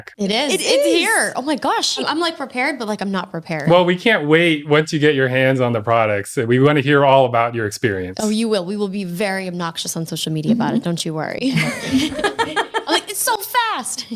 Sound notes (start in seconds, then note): 11.5 everyone laughing